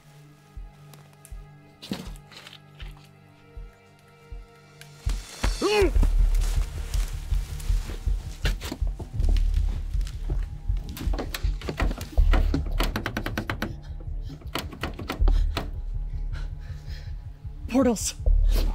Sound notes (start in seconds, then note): 6.5 dragging sounds